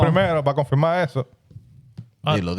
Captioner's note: speaking In Foreign Language